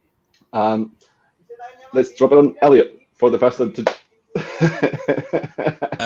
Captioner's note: laughing